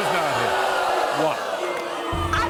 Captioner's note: audience booing